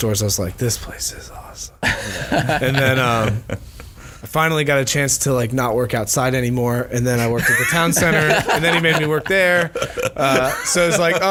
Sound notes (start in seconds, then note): 7.3 laughs; 8.1 wheezing